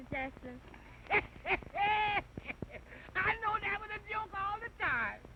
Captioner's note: laughing